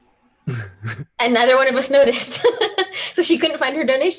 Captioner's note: laughing